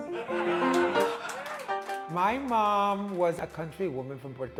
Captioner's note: cheers and applause